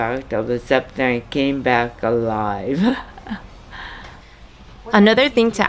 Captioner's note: laughs